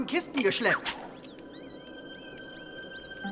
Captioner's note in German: Mäusepiepsen